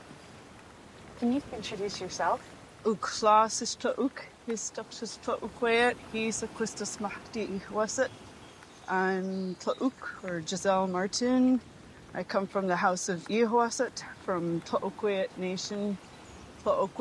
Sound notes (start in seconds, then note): 3.1 speaking in Nuu-chah-nulth